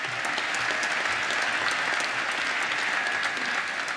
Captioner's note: applause